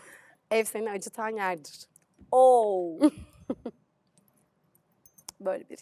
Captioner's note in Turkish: kahkaha